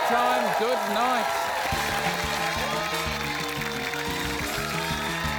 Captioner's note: cheering, applause